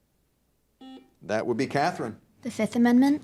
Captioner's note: buzzer dings